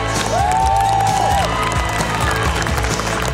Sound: cheering

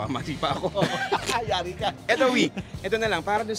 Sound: laughs

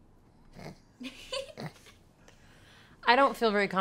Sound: laughs

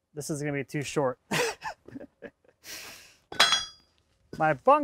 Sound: laughs

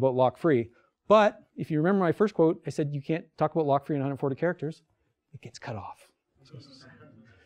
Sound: whispers

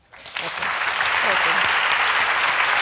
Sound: audience claps

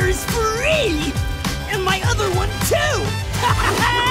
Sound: laughing

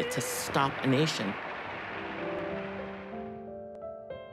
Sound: crowd applauding

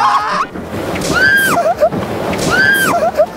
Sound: water slap

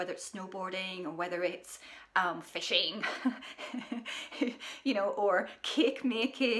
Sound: laughing

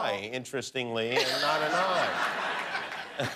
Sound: laughter

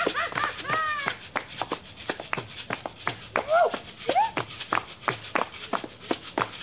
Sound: percussive music; all exclaiming

